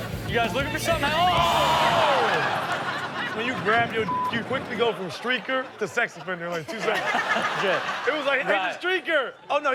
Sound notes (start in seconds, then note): 0.6 audience exclaims; 4.0 beep; 7.3 Chanel and audience laughing